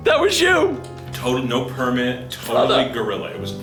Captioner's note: voiceover